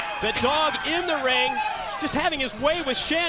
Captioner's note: crowd chatter